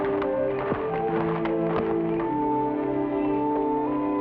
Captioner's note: footsteps patter